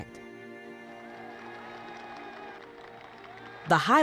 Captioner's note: crowd applauds